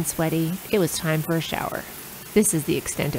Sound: running water

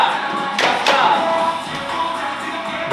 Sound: clap clap

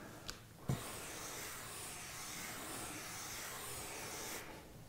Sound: marker squeaking

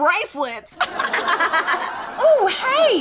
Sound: laugh track

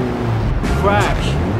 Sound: crash

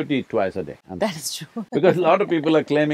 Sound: both laugh

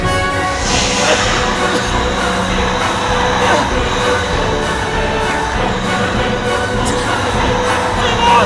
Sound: vital energy draining sound

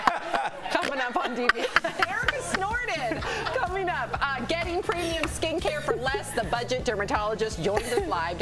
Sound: laughter

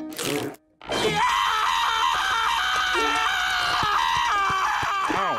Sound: screaming

